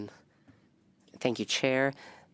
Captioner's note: speaking French